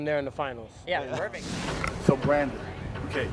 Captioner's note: swish